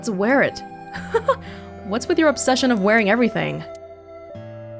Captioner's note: chuckles